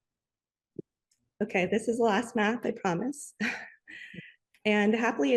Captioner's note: chuckles